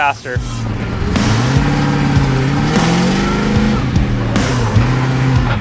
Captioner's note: car engines roar; dramatic music